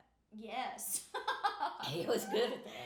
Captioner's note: laughing